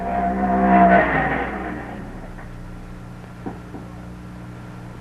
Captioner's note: engine roaring